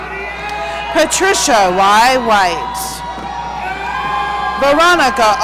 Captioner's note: audience cheering